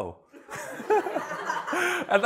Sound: laughter

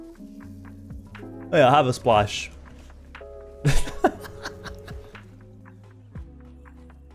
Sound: more laughter

